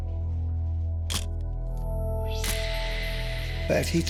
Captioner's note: camera shuttle click